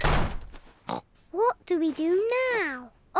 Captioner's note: oinks